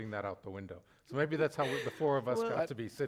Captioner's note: chuckles